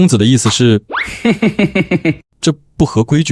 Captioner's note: chuckles ominously